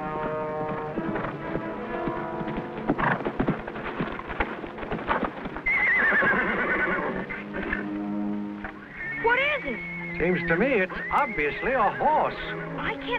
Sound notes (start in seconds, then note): 5.6 Champion whinnies